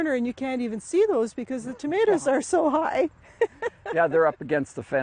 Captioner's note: laughs